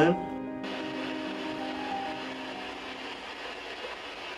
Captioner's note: static crackling